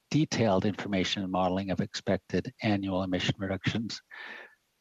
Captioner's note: speaking French